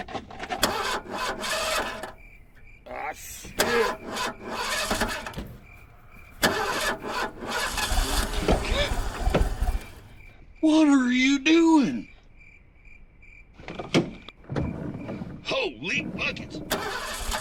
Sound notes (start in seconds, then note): 0.7 car engine revving